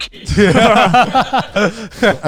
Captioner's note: all laughing